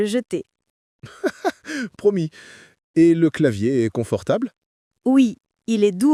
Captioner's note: laughs